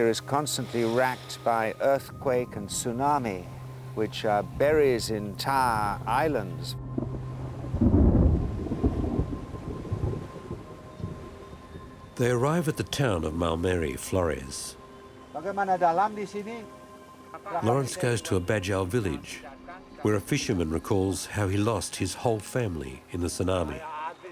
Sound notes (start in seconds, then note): 7.8 thunder rumbling; 15.1 speaking Austronesian language